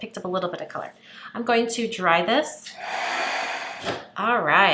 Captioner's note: dryer blows